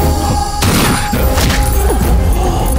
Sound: gunshot

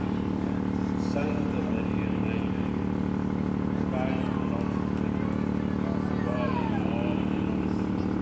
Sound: prayers

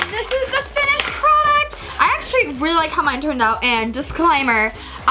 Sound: none

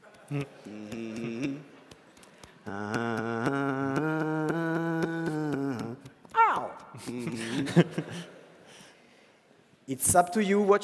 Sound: humming Wolf of Wall Street song

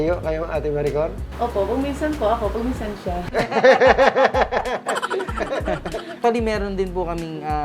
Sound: laugh

